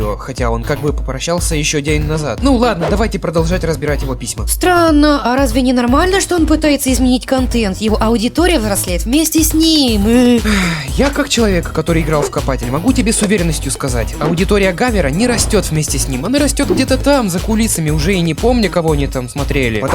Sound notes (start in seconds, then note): 10.4 sigh